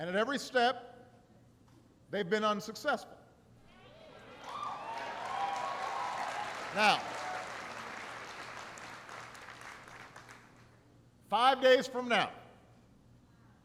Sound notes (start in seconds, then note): 4.1 applause